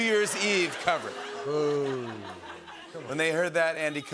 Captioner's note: booing